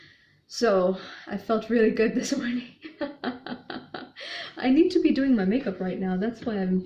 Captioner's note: laughs